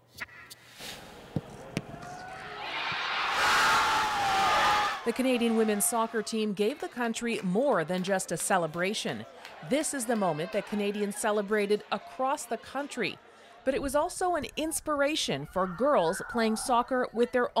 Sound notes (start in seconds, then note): 4.9 cheers and applause